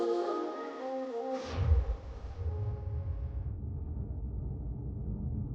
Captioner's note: transition whooshes